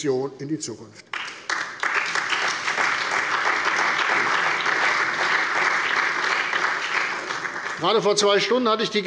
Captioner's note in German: Beifall bei der CDU und dem BÜNDNIS 90/DIE GRÜNEN